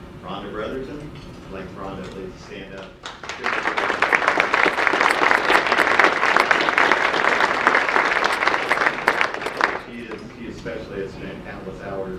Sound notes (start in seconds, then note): 3.0 audience applause